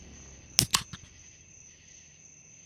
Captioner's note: tasty beverage opening